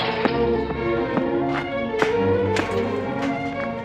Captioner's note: metal crashes; boots clattering